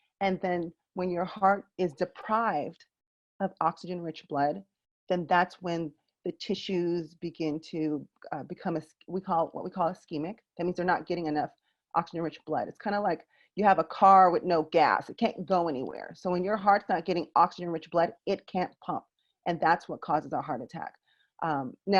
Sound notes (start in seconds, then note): none